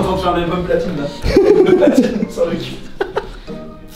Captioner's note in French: rire